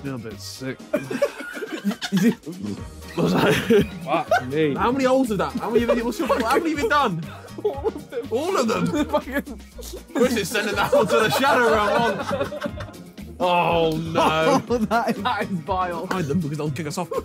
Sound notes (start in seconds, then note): 2.1 burping; 9.2 laughing